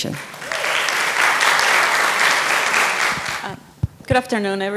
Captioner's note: applause